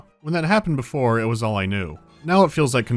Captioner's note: none